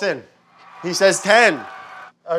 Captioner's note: people cheering